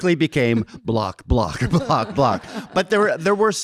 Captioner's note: audience laughing